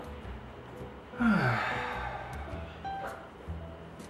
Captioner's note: sighs